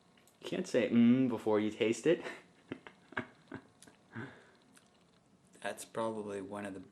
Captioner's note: laughs